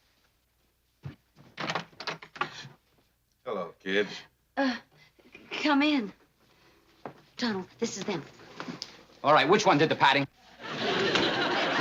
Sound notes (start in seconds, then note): 2.4 gasps